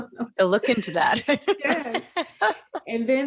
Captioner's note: laughing